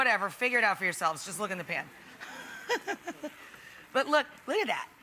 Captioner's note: laughs